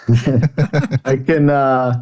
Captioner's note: laughing